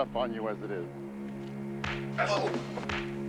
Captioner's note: punching sounds